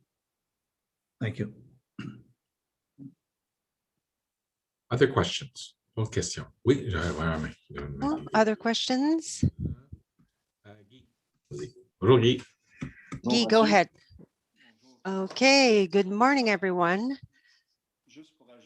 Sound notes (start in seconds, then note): 5.3 foreign language